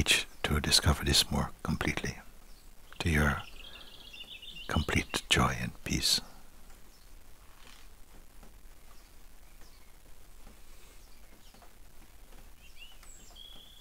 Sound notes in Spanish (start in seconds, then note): 8.3 Silencio